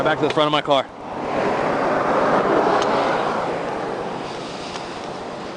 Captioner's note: vehicles roaring